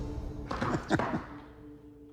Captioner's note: laughs